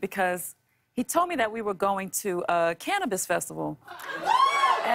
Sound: cheers and applause

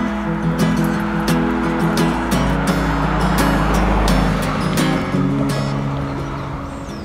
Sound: sound of car passing

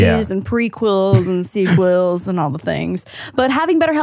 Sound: laughs

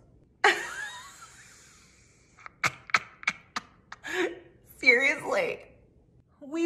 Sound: laughing

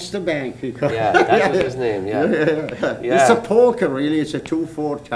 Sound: laughter

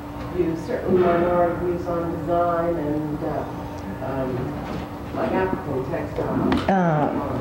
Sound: speaking faintly; speaking faintly

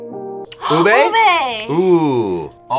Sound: gasps

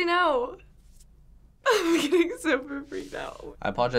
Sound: chuckling

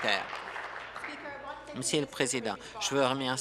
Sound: applause

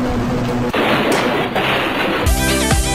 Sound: insert car noises here; insert crash noise here

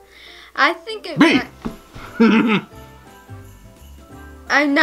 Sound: laughs

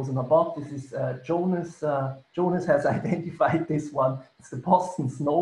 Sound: laughing

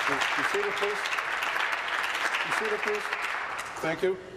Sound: applause

